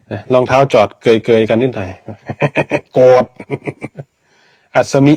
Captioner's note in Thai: เสียงหัวเราะ